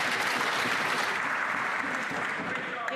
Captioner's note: some Applause